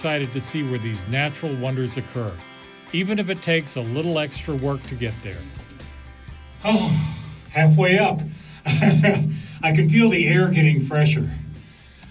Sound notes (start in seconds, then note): 6.6 exhales; 8.5 laughs